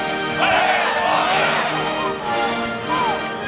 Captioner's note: all shout